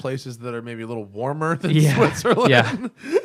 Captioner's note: laughter